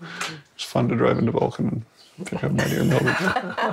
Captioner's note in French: rires